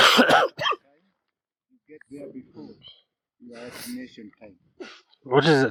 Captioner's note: cough